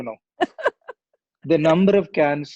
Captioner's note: chuckling